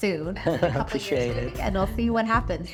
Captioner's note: laughs